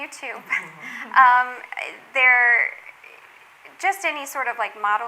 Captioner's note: all laughing